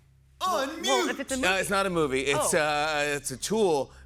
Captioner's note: none